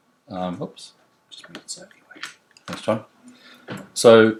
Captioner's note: whispers